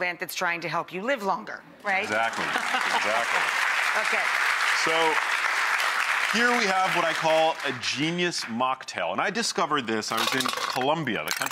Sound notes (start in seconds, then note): 2.0 audience applauding; 2.1 laughing